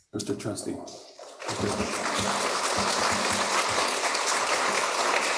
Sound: applause

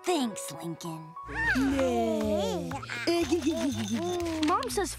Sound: baby cooing

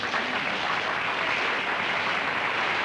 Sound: applause

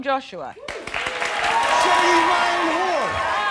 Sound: audience applauding

